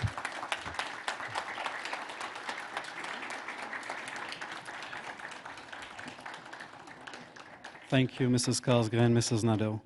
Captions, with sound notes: Thank you. And congratulations, Mary. [applause]